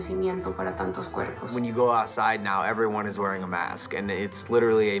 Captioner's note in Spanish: Logan hablando en inglés